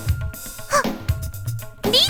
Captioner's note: gasp